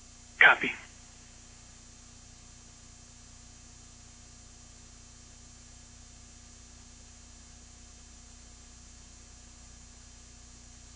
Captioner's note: long, long pause